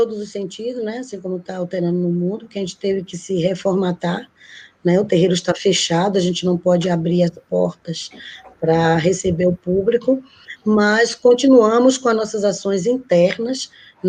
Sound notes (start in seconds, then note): 0.0 speaking Portuguese; 4.2 speaking Portuguese